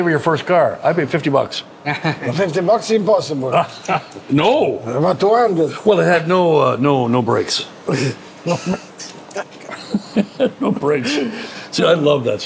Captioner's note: both laugh; all chuckle